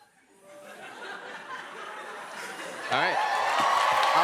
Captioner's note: laughter; cheers and applause